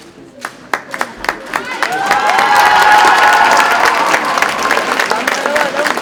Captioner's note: audience cheers and applauds